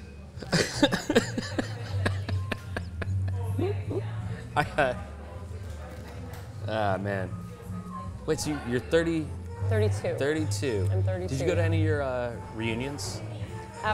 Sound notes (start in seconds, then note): 0.4 laughs